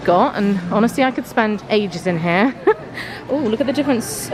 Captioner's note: laughs